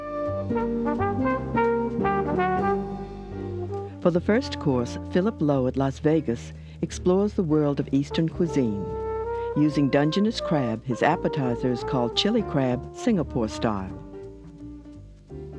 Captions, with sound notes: (upbeat music) - [Voiceover] For the first course, Phillip Lowe at Las Vegas explores the world of eastern cuisine. Using dungeness crab, his appetizer is called chili crab, Singapore style.